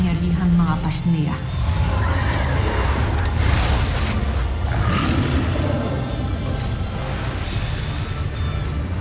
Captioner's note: screeching roar; guttural roar; fire blasting